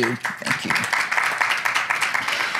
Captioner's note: applause